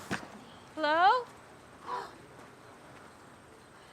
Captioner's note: gasps